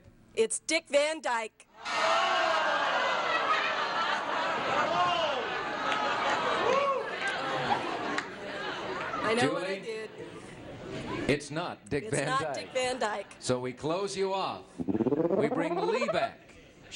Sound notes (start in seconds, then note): 1.8 booing